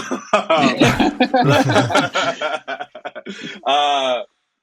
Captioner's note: all laughing